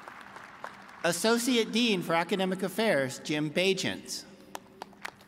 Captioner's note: applause